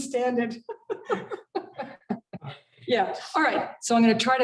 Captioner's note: laughter